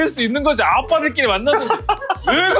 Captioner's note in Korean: 웃음